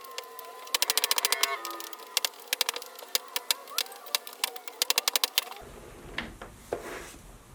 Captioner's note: high pitched noises that sound like ghosts crying